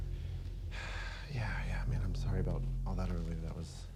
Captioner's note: sighs